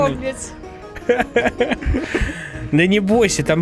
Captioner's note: laughter